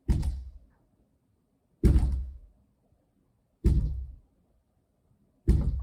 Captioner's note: knocking head against glass door